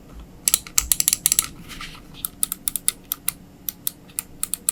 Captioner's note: mouse clicking continues